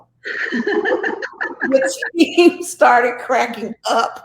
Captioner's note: both laughing